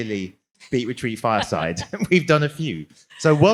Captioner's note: laugh